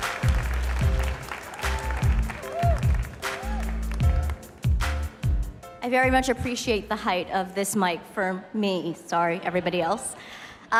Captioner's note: cheers and applause